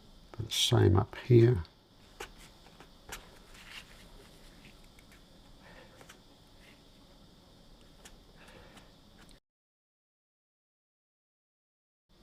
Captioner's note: silence; silence